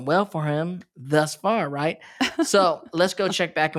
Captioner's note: laughs